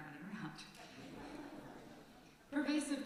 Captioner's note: laughter from congregation